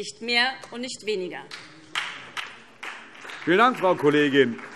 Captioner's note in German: Beifall SPD